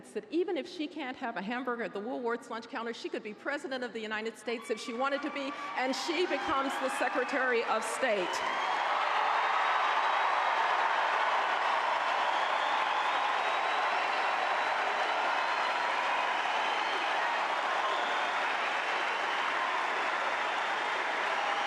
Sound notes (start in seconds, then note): 8.8 applause